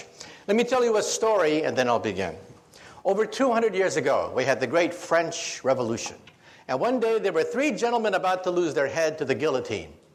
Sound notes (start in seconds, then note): none